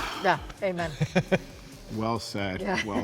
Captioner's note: person laughs